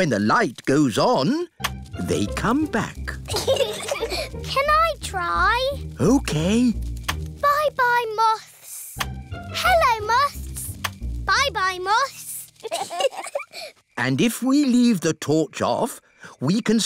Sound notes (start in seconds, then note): 3.2 peppa and george giggle; 12.6 both giggle